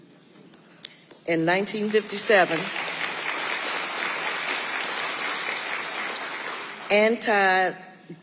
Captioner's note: audience applauding